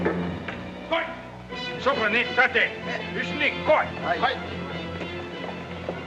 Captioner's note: suspenseful music; speaking in Japanese; suspenseful music